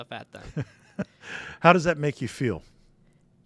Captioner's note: laughing